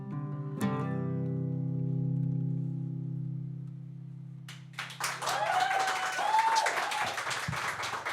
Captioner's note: applause